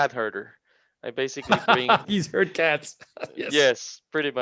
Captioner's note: laughing